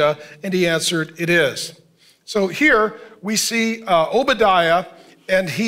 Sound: none

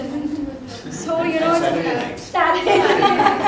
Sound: laughter

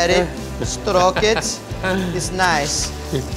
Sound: laughs

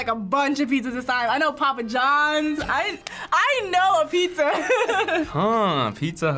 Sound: laughs

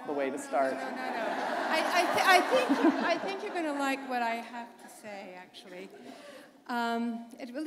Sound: laughter

